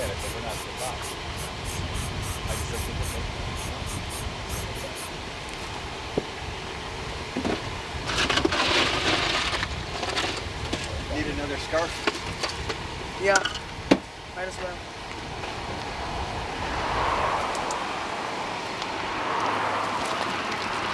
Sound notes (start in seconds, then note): 0.0 spraying drowns out speaker; 8.3 loud clatters; 16.4 car whooshing